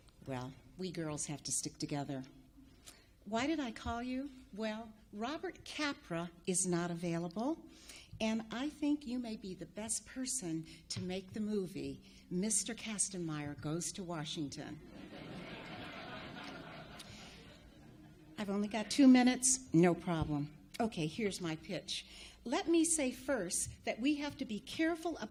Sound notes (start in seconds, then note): 14.8 audience laughs